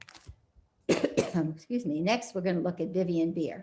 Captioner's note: coughs